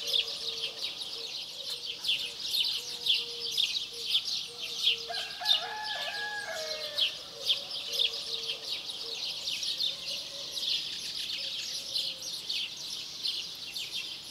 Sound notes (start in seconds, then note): 5.0 rooster crowing; 5.1 birds chirping